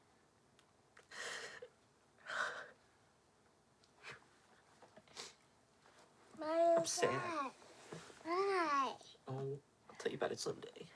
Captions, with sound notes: [sighs heavily] - Why are you sad? - I'm sad. Why? Oh, I'll tell you about it someday.